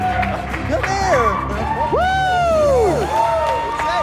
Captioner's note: cheering